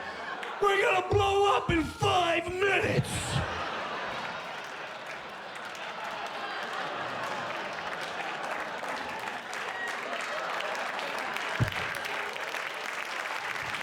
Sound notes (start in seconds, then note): 8.6 cheers and applause